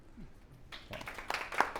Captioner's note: applause